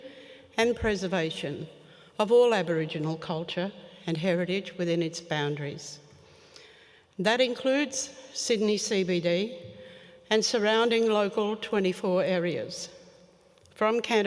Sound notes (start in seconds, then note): none